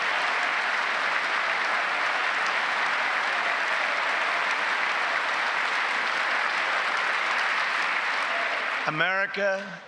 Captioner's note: applause